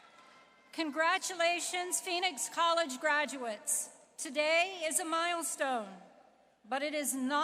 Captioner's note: applause